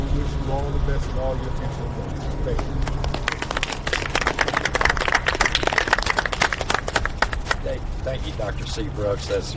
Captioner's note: audience clapping